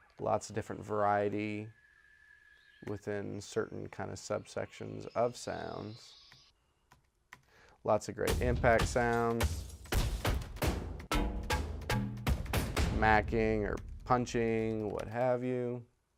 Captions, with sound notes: Lots of different variety within the certain subsections of sounds. Lots of great impact sounds. (plays impact sounds) Smacking or punching, what have you.